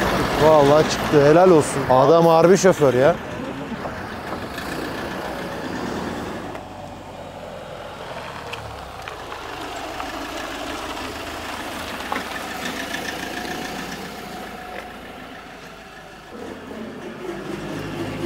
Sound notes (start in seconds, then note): 9.8 car sounds